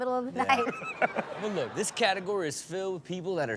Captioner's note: audience laughs